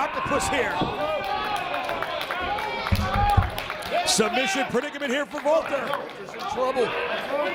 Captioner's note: applause